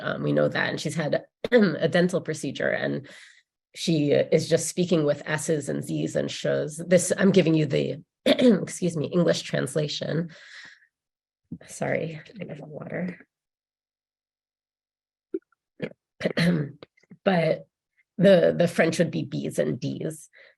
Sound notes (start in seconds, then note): 8.3 coughs